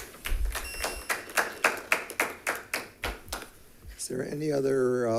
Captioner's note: attendees applauding